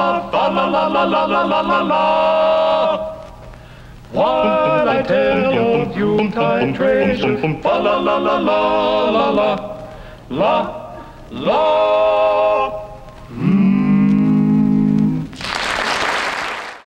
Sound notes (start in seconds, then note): 13.2 humming; 15.3 audience clapping